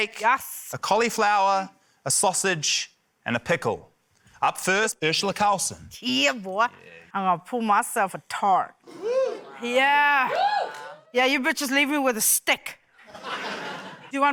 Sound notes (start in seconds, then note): 10.2 scattered cheering; 13.0 laughter